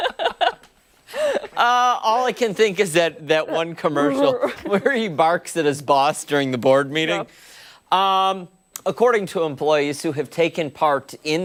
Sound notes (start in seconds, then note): 4.4 laughter